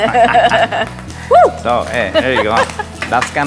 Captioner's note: chuckling